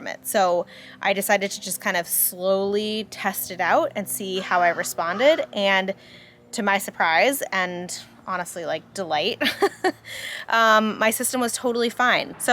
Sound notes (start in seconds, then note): 9.4 chuckling